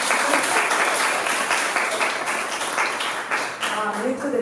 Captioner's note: applause